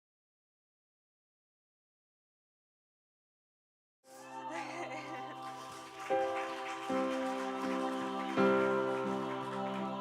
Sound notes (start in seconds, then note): 4.1 crowd cheering; 4.2 laughs